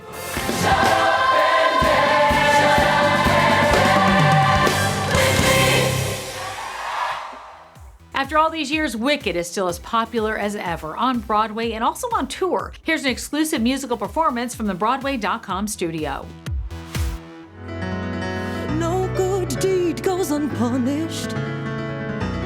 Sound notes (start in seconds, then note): 0.3 exciting music; 5.7 cheering